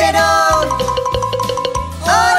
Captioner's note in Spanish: Sonido de campana